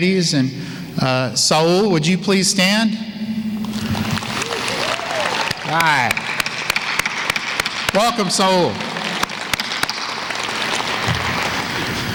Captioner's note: clapping